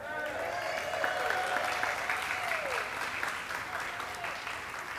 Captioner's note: audience cheering and clapping